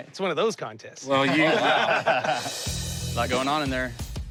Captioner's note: laughter